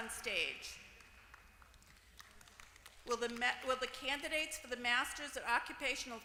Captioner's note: applause